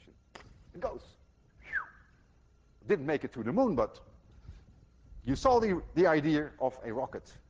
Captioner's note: whistles